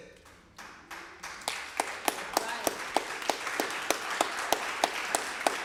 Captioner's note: applause